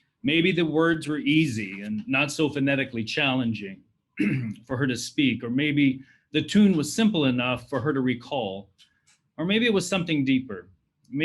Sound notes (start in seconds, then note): 4.2 clears throat